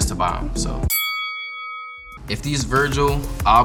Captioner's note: bell chime